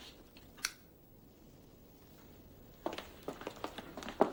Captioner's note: light switch clicks